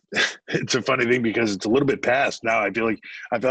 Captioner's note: laughs